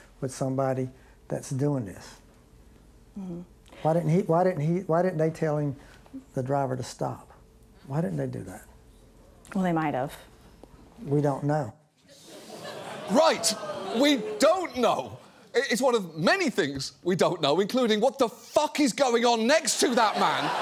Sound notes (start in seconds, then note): 12.2 studio audience groans